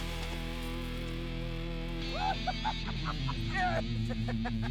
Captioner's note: laughing